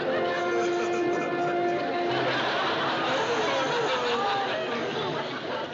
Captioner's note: fake crying